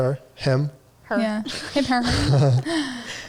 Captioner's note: giggling